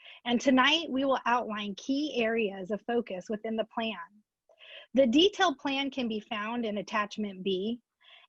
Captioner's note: none